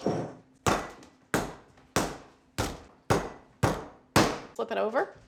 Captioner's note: pounding sound